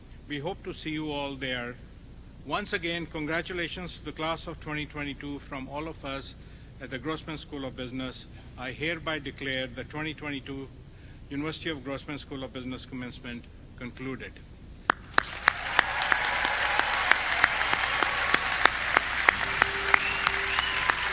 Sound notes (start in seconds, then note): 14.8 audience clapping